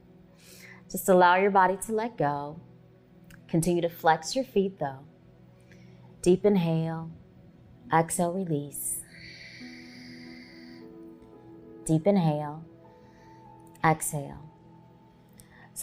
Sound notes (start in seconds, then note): 9.0 exhaling